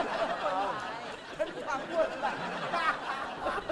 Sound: laughing

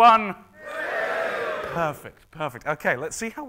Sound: cheering

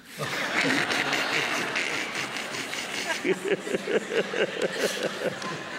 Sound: laughter

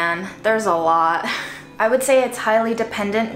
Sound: woman giggling

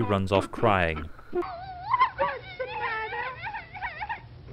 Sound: sobbing

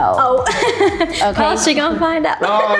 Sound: laughs

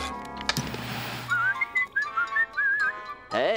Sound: whistling

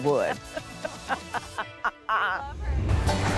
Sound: laughing

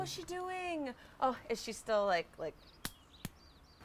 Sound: slaps arm

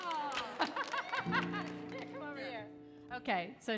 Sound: audience applauding; laughs

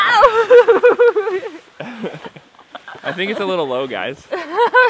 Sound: laughing

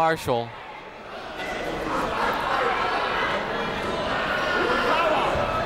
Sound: people shouting in the crowd

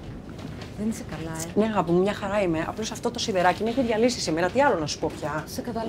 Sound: Vanina and Kaiti speaking foreign language

